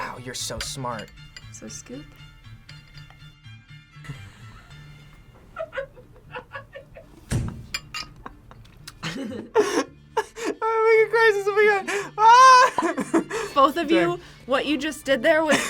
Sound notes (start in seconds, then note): 4.3 laughs; 8.0 both laugh; 11.8 laughs